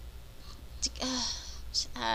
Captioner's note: sigh